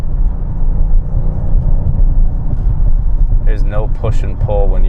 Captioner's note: low thudding